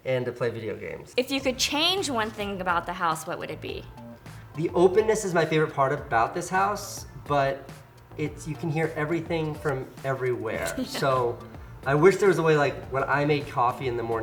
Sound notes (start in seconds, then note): 10.6 laughs